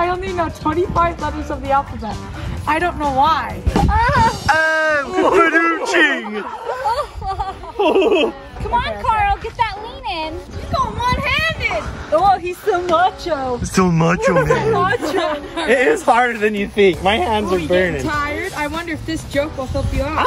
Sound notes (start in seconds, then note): 5.1 fake laughter; 12.5 mockingly